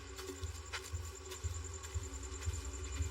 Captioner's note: insnsects chirrining; tense mususic